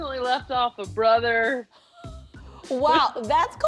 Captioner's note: laughs